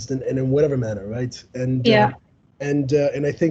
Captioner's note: audience Agreeing